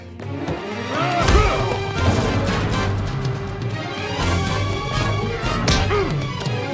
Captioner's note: dramatic music; grunting